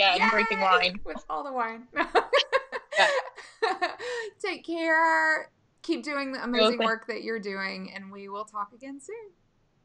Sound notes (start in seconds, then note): 2.0 laughing